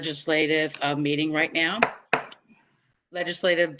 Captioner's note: gavel pounds